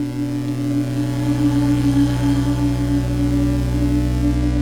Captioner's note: singer vocalizing; static zapping